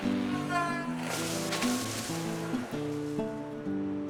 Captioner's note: machinery humming; trees rustling